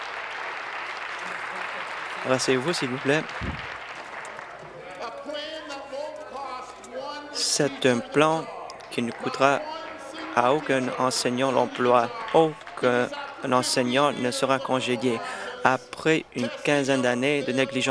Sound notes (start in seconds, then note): 1.5 some Applause